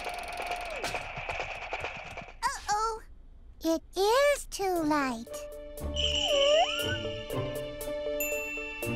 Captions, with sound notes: - Uh-oh. It is too light. (sighing) (ding!)